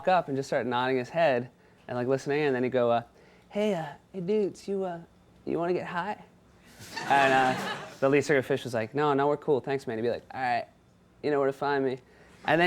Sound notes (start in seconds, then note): 6.8 audience chuckles